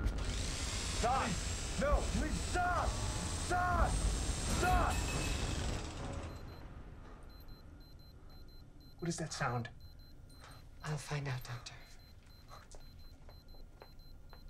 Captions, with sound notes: (drill whirring) Doc! No! Please, stop! Stop! Stop! (metal clanging) (watch beeping) What is that sound? I'll find out, Doctor.